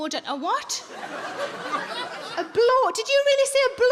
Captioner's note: audience laughs